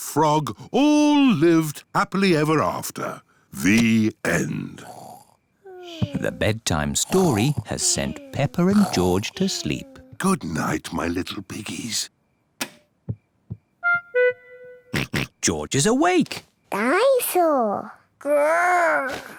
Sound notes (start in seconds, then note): 4.9 both snore; 12.6 light switch clicks; 14.9 oinks